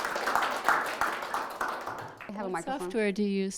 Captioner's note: applauding